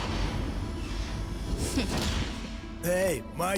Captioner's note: mechanical door whirs